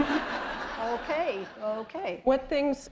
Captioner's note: laughter